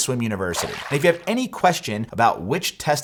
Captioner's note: water splashes